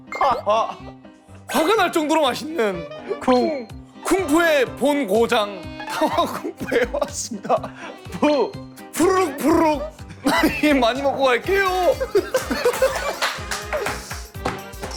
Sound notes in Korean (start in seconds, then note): 5.8 꺄르륵